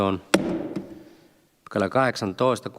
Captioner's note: Nuijan kopautus